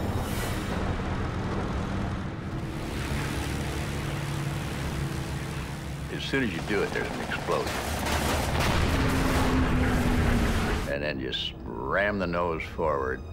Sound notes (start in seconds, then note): 8.3 booming; 8.3 engine whirring